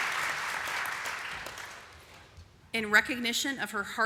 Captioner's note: applause